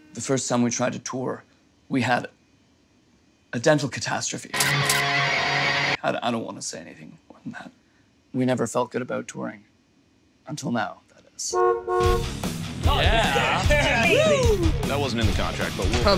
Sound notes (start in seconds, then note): 4.6 heavy metal music; 11.5 car horn honking